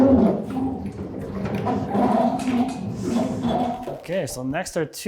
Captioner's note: machine squeaking